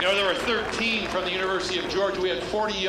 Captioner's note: applause